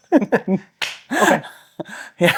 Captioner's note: both laughing